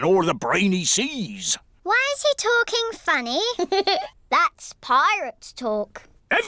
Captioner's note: giggles